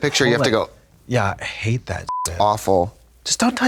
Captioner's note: beep